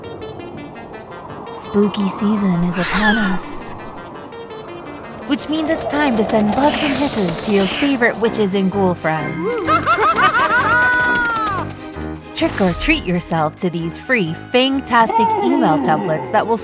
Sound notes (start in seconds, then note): 0.6 spooky music; 9.4 witch laughs